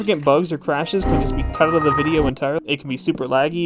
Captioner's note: Windows error sounds